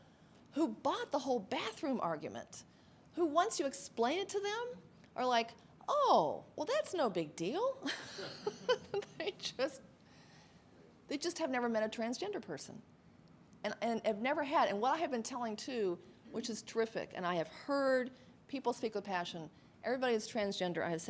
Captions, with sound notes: and there's even some people, who bought the whole bathroom argument, who once you explain it to them, are like, "Oh! Well, that's no big deal!" (laughs) They just, have never met a transgender person. And, I've, I've never had, and what I have been telling, too, which is terrific, and I have heard people speak with passion,